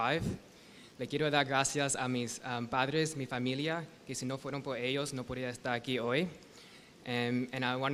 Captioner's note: speaking spanish